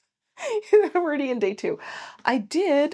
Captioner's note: laughing